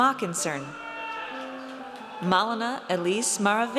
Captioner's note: audience cheers